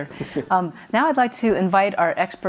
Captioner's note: chuckles